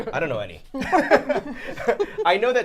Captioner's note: all laughing